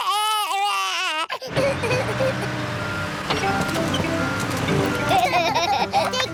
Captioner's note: crying; engine rumbles; both laugh